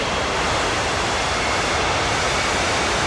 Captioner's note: plane noise